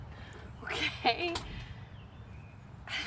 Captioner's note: chuckles